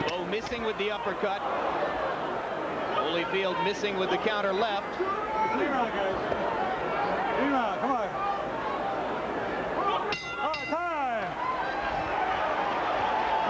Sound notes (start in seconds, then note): 10.0 bell rings